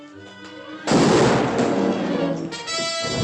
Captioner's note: gunshot